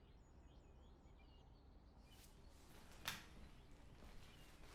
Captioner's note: birds chirping